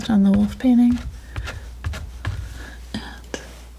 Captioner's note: tapping